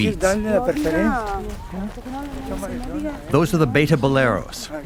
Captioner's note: speaking in foreign language